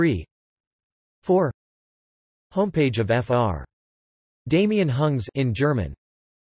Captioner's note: in German